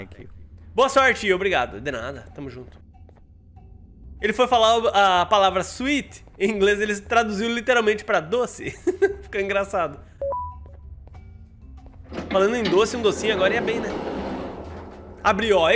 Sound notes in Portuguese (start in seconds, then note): 8.6 risos